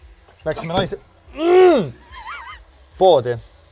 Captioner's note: bang